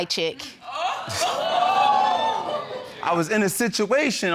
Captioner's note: audience exclaims